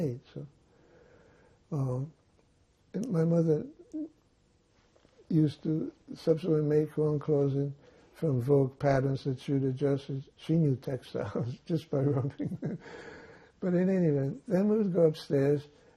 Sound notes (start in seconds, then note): 11.9 laughing